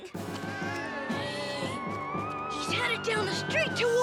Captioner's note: boy groaning